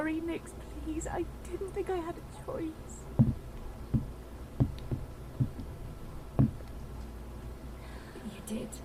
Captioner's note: receding footsteps